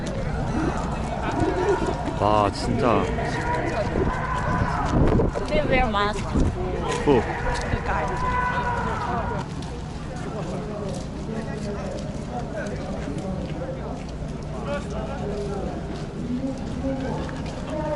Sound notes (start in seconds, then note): 3.3 loud protest noise